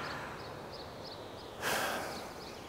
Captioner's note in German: Seufzen